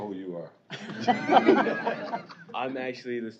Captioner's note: laughter